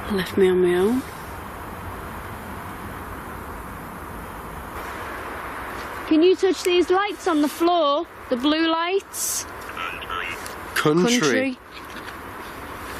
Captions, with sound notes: and left me on me own. - Can you touch these lights on the floor, the blue lights? (Ovilus speaking) Country.